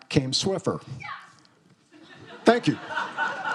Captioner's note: students laughing